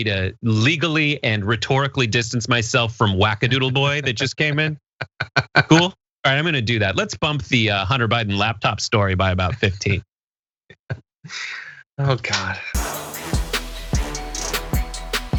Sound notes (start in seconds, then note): 5.0 laugh; 9.8 laugh